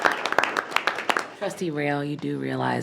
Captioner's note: board applauding